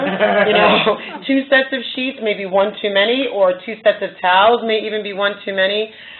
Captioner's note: laughter